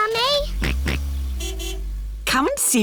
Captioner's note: car horn honks; george oinks